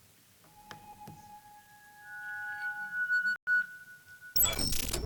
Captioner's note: electronic whirring